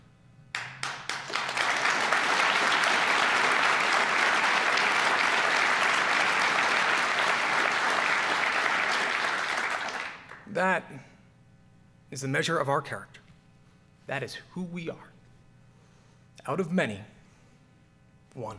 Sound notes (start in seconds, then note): 4.0 applause